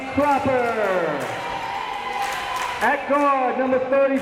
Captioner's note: crowd members cheering